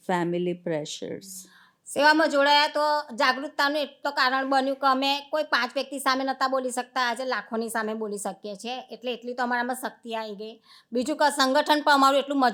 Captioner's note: speaking gujarati